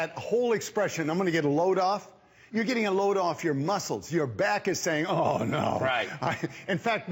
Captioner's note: laughter